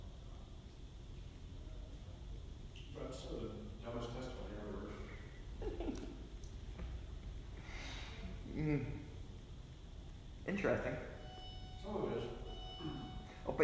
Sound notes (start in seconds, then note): 8.4 dramatic sigh